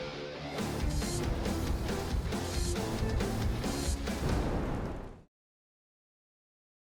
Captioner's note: yelling